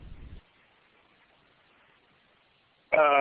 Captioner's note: pause